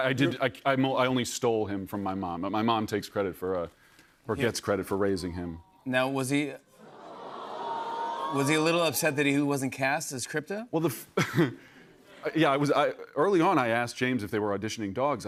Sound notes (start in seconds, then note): 6.8 audience awws